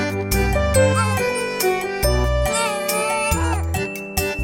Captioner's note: sob